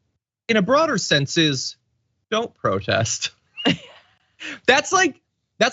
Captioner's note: laugh